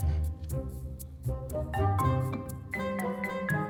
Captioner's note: none